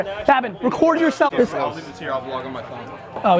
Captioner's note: laughs